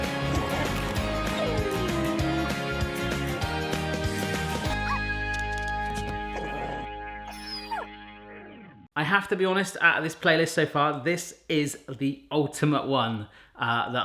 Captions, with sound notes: (crunching) (barking) (growling) I have to be honest, out of this playlist so far, this is the ultimate one